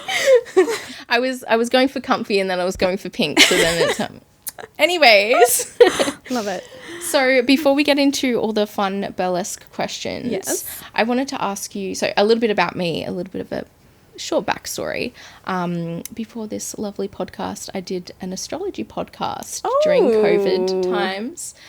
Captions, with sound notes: (laughing) I was going for comfy, and then I was going for pink, so then I'm gonna turn. Anyways, love it. So before we get into all the fun Burlesque questions, I wanted to ask you, so a little bit about me, a little bit of a short backstory. Before this lovely podcast, I did an astrology podcast during COVID times.